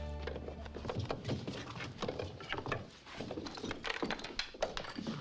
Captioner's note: objects clattering